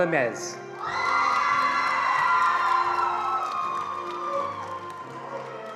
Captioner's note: attendees cheering and applauding